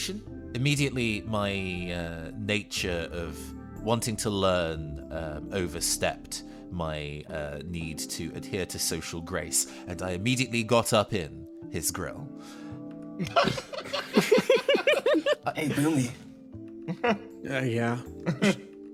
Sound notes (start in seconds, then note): 13.2 laughs